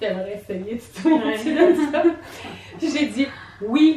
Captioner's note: laughs